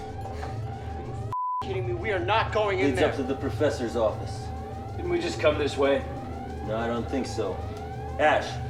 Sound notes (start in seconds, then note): 2.5 voiceover